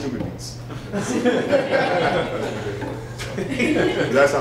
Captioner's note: laughter